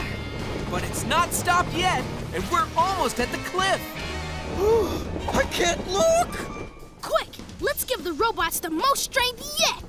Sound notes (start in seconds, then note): 4.6 gasping